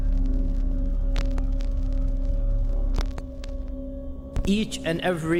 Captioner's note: static hissing